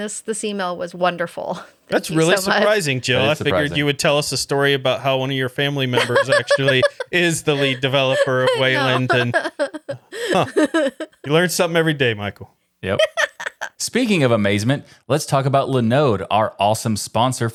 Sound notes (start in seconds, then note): 9.2 laughing